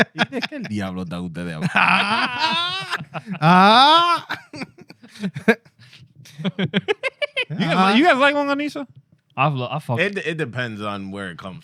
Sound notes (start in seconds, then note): 0.7 speaking In Foreign Language; 1.6 laughing